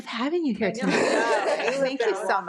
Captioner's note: laughs